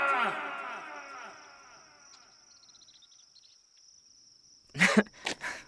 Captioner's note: crickets chirping; Judas nervously laughing